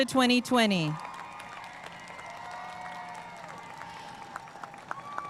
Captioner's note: audience cheering and applauding